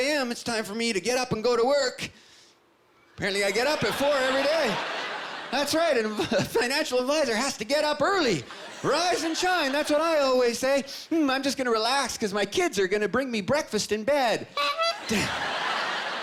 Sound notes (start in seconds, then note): 9.4 sniffing; 14.6 honking